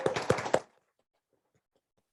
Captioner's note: applause